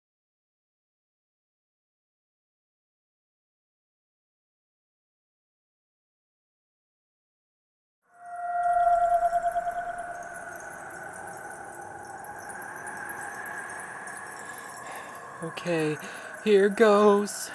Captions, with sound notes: WARNING!!! THIS VIDEO HAS BEEN RATED AGES 14 AND UP! JANUARY, 2021 (TAKES DEEP BREATH) Okay, here goes.